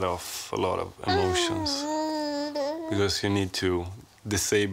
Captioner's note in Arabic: غرغرة طفل